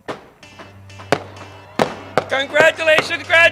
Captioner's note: fireworks pop